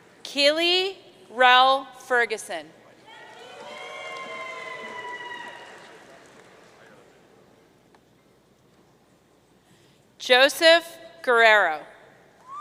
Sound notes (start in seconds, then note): 3.1 audience cheering; 12.3 audience cheering